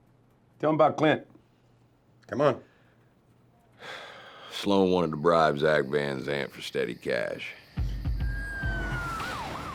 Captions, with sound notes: TELL 'EM ABOUT CLINT. COME ON. [SIGHS] SLOAN WANTED TO BRIBE ZACK VAN ZANT FOR STEADY CASH. [POLICE SIRENS WAILING]